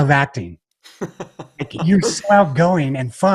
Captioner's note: laughs